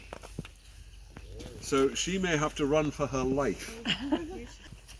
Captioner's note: audience laughs